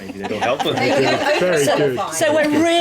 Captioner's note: laughing